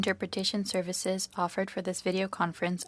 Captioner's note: speaking French